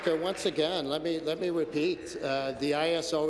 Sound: applause

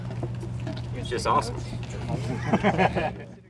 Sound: laughter from audience

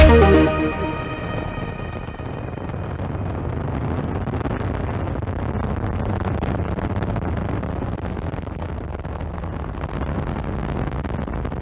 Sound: sounds of rockets blasting off

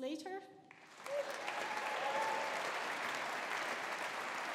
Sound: audience applauding

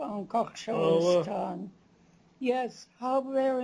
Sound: non-english speech

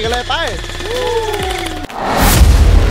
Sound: gunshot firing

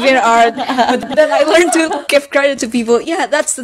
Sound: bustin' out some laughs

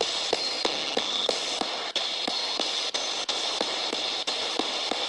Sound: ghost box hissing

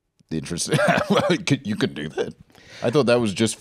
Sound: laughs

